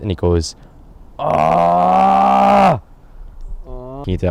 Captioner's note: pained outcry; lacklustre outcry cut short